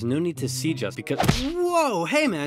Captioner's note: smack